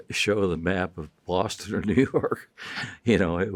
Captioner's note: chuckling